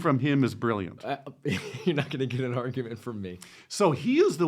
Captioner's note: laughs